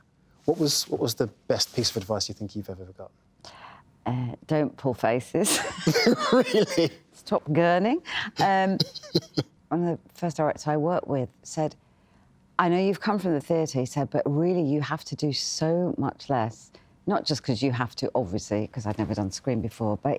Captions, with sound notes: What was the best piece of advice you think you've ever got? – Don't pull faces. – [LAUGHING] Really? Stop gurning. One of the first directors I worked with said, "I know you've come from the theatre," he said, "but, really, you have to do so much less." Not just cos you have to, obviously, cos I'd never done screen before,